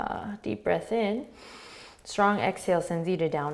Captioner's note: inhaling